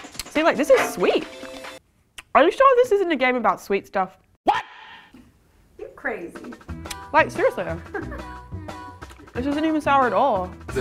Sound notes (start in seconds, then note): 7.7 woman laughing